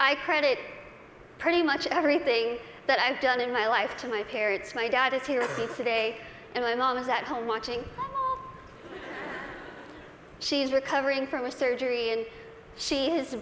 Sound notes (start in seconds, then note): 8.8 laughter